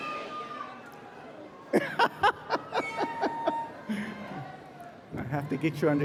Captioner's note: laughs